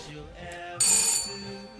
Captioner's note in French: sonnette